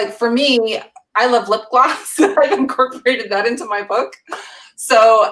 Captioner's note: laughs